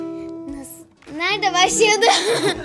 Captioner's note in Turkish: gülüyor